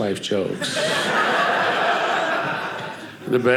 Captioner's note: audience laughing